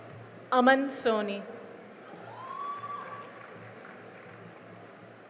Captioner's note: cheering and applause